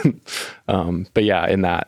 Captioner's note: chuckling